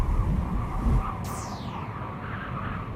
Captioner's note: wind Blowing